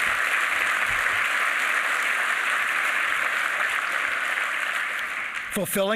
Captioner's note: applause